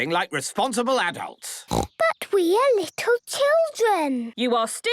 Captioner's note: snorting